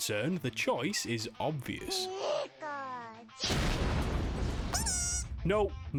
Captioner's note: boom